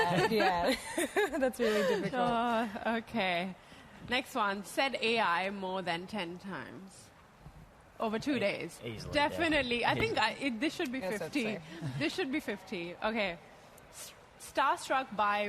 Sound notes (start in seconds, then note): 2.1 laughter